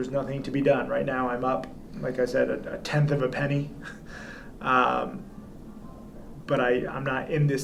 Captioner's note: chuckles